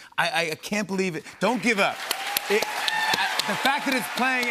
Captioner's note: cheers and applause